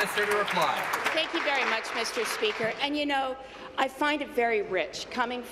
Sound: applause

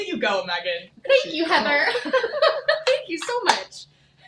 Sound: laughs

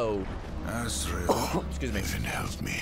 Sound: coughs

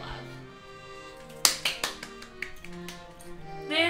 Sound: clapping

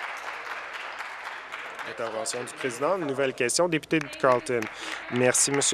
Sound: applause

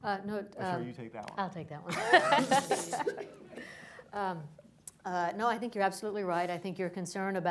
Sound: laughter

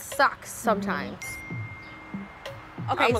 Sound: phone chimes

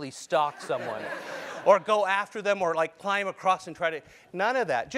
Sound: laugh

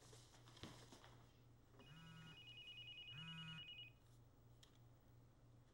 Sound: cellphones rings

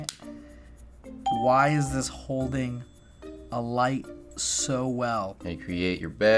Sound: ding

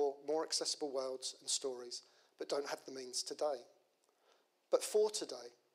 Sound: none

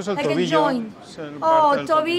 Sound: speaking in foreign language

